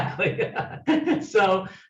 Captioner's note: laughing